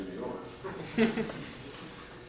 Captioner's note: chuckling